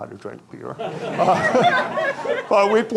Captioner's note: audience laughing